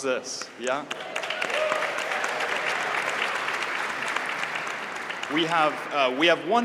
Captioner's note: applause